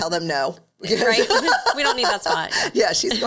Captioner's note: laughing